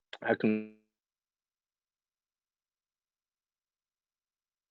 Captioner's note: silence